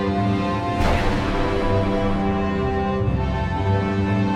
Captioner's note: cannon booming